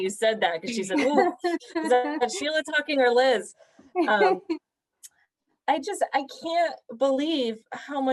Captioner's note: laughter